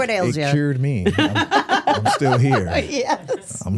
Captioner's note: hosts laughing